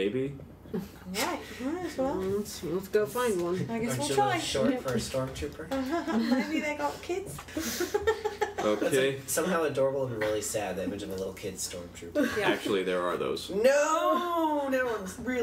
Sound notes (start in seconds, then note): 7.4 laughs